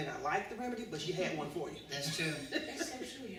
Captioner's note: laughter